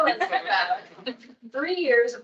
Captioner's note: attendees laughing